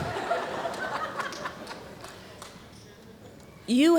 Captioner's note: laughter